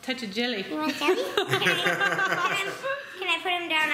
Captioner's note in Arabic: ضحك